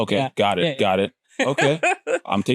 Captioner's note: laughs